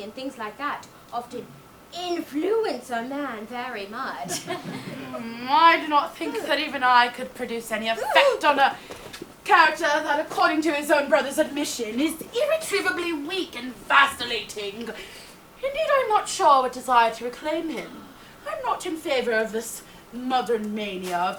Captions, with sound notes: and things like that often influence a man very much. (audience laughs) - I do not think that even I could produce any effect on a character that according to his own brother's admission is irretrievably weak and vacillating. Indeed I am not sure that I would desire to reclaim him. I am not in favor of this modern mania